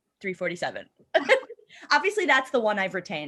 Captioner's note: laughter